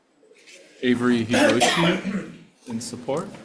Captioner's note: person coughs